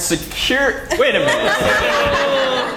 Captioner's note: laugh